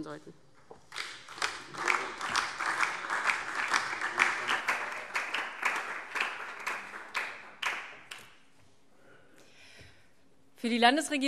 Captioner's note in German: Beifall DIE LINKE und SPD